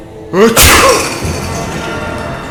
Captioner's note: sneezes very loudly